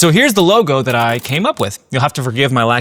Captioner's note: keyboard clicking